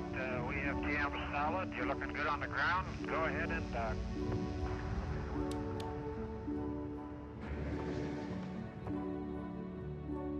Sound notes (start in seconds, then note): none